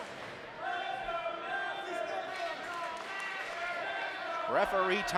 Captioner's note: crowd chanting